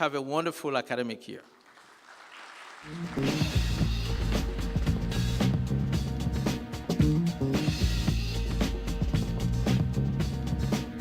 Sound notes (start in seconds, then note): 1.4 applause